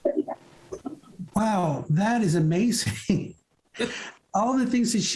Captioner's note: chuckles